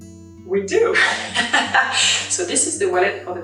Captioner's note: laughs